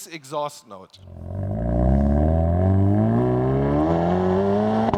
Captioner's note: car engine revving